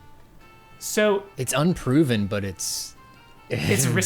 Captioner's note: pat